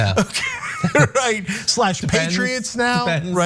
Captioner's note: laugh